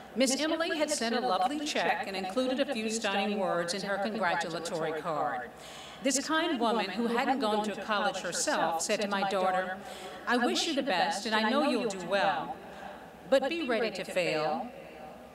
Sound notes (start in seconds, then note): none